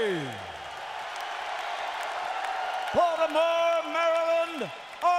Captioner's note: crowd cheering